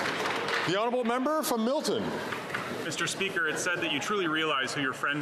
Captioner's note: some Applause